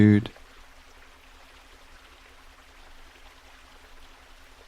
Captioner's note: water gushing